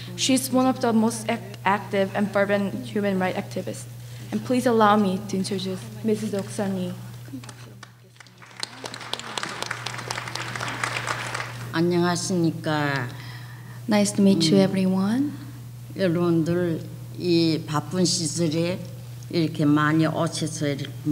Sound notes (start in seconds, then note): 7.4 applause; 12.0 speaking foreign language